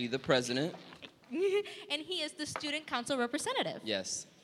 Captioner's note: giggling